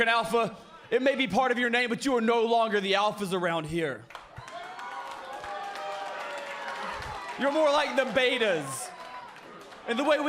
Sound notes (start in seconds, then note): 4.0 cheers and applause